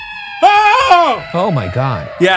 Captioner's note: eerie screaming; screaming